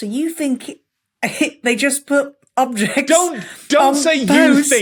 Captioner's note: cracks up